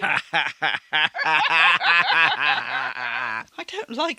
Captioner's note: obnoxious laughter